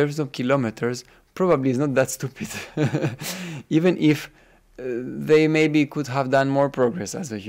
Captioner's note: laughs